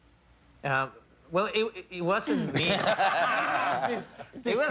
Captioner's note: laughter